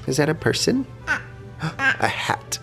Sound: baby babbling

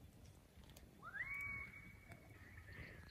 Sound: a bird call rings out

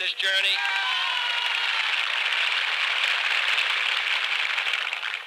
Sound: applause, cheers

